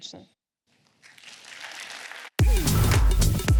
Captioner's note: applause